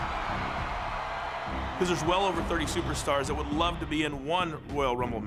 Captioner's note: applause